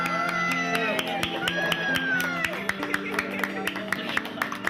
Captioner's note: clapping, cheering